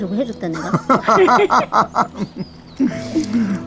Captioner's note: both laughing